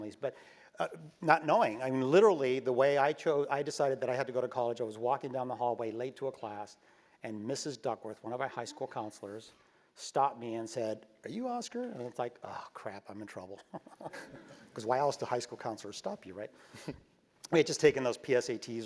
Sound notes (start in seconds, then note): 13.5 laugh; 16.7 laugh